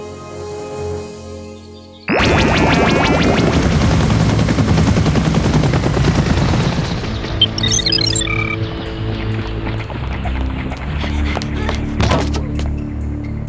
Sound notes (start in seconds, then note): 4.4 chopper blades whirring; 8.6 suspenseful music playing; 10.8 both panting